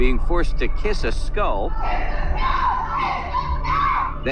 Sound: indistinct shouting

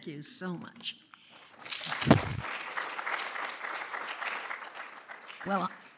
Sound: applause

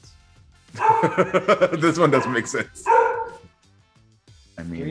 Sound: laugh

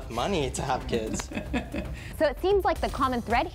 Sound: laughing

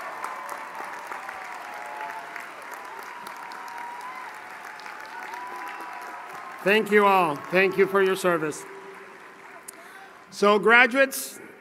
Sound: applause

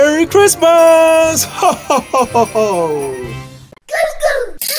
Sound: sleigh bells jingling

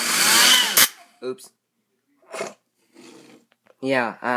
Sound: snort

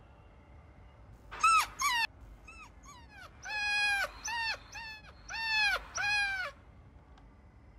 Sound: puppy whining

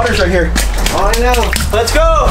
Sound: water splashing

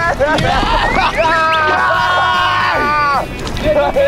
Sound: cheers in victory

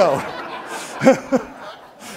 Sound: laughs

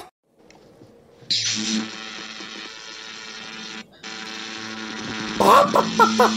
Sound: electricity

